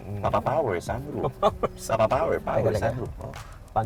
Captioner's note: laughing